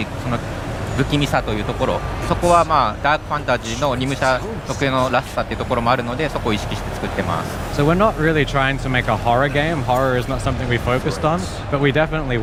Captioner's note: speaking global language